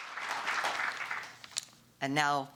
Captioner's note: applause